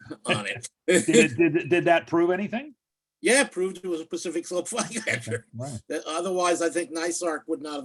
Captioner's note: laughs